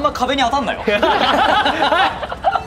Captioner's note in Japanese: 笑い